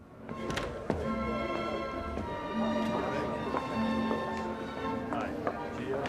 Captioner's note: gentle classical music; guests chatter